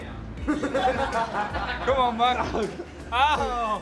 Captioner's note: laughing